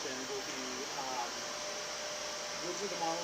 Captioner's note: vacuum cleaner hums